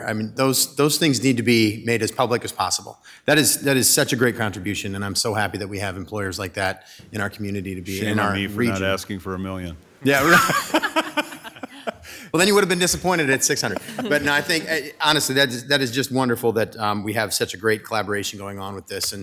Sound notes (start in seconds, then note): 10.1 laughing; 10.1 laughs